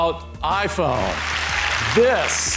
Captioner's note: applause